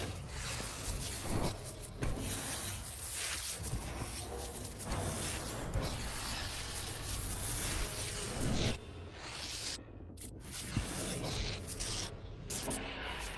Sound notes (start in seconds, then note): 1.8 brushing and speaker feedback